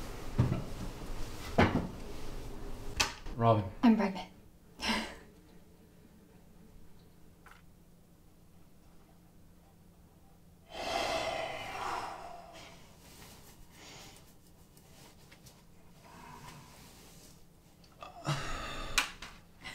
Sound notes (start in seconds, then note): 7.6 man sighs; 16.7 Robin giggles